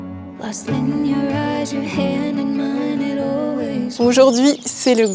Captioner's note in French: chant